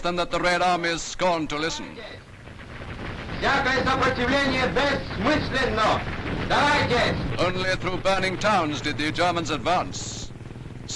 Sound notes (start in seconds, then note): 2.3 guns firing; 3.2 speaker speaking in foreign language